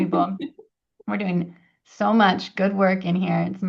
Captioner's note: laughs